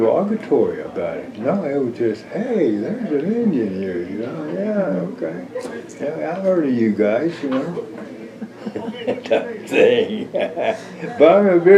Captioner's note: laughs